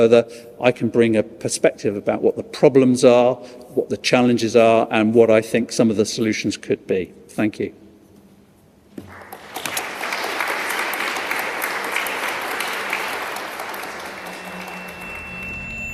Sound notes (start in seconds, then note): 9.0 applause; 13.8 drone-like music